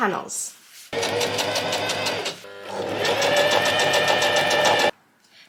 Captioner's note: sewing machine surges